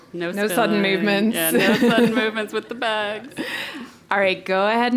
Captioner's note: laugh